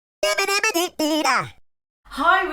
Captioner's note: cheerful vocalization